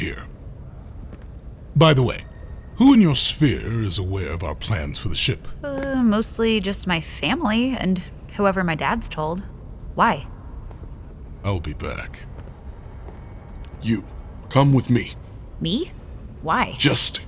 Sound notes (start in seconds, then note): 11.5 footsteps receding